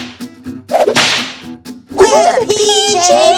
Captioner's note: adventurous music; snap!